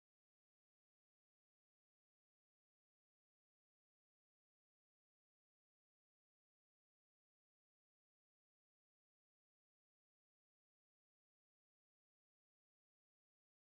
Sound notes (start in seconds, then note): none